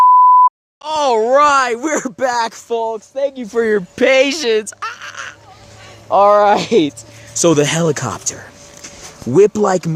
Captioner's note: laugh/screech